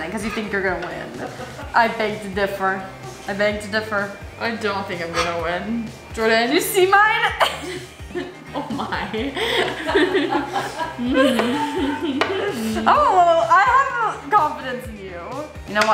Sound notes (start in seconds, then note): 9.5 laughing